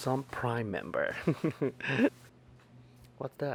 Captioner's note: laughs